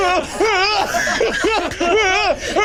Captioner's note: yells